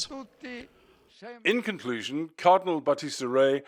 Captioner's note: voice-over